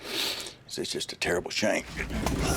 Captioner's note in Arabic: صخب